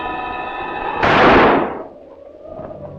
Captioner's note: gunshot